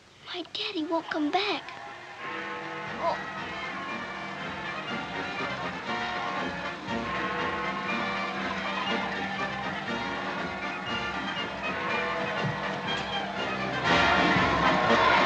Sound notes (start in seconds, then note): 3.7 bell tolling; 3.7 marching band